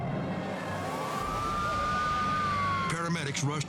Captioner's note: sirens screaming